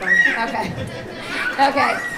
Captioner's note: audience chuckling